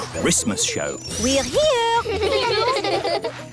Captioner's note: children giggling